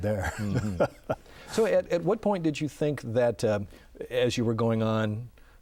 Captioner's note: laughing